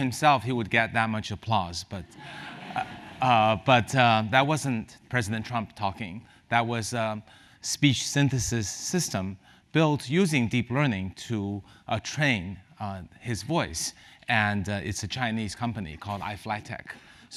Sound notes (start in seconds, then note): 2.2 laugh